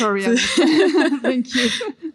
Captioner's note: laughter